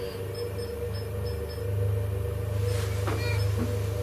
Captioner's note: beeping